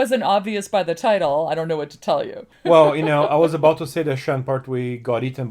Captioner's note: laughs